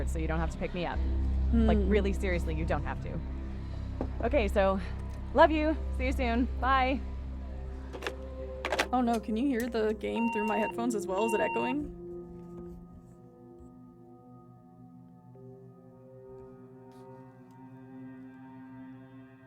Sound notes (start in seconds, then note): 8.6 receiver Hangs Up; 10.0 messaging Machine Beeps Twice